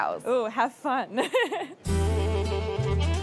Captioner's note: laughing